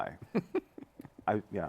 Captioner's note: laughs